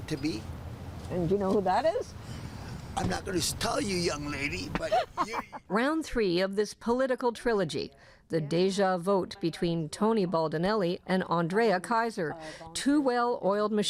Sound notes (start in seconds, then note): 4.7 laughs